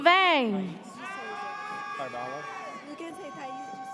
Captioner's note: audience cheers